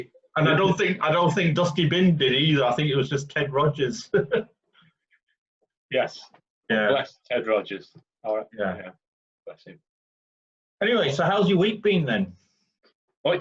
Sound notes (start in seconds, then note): 4.0 chuckles